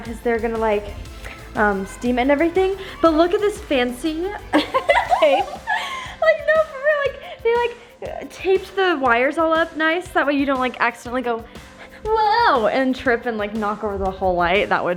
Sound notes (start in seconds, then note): 4.3 giggling